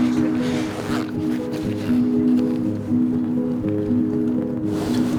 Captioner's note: zipping; dramatic music